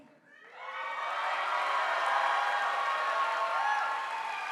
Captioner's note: audience applauding